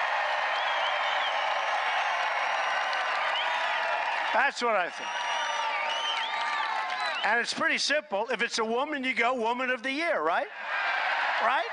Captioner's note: applause